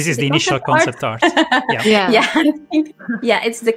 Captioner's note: laughs